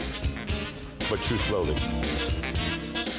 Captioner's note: talking over singing